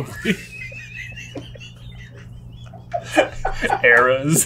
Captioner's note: cracking up